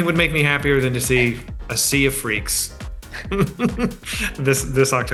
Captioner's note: laughs